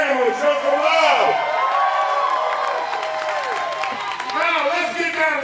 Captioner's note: audience cheering